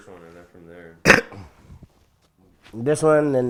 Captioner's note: coughs